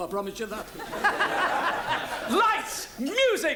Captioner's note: audience laughs